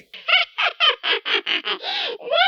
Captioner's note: laughs